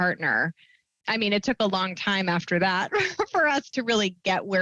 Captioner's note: chuckles